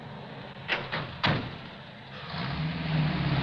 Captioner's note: doors slamming; engine revving